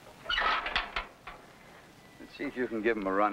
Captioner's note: metal clanking